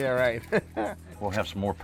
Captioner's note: laughs